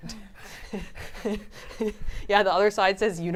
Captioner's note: laughs